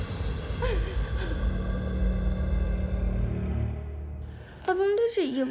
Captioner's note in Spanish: sollozos